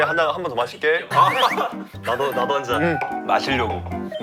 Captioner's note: gulping sound